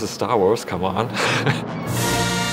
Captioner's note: laugh